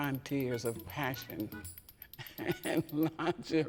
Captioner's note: chuckling